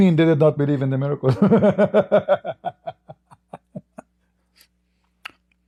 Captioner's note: Ketawa